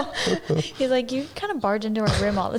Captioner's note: laughs